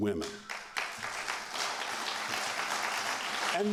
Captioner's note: applause